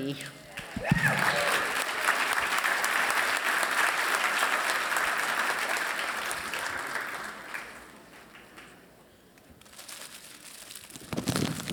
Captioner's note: applause